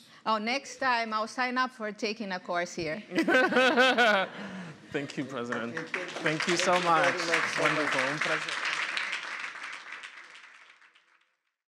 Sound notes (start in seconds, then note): 0.0 speaking portuguese; 3.2 laughs; 8.4 speaking portuguese; 9.2 applause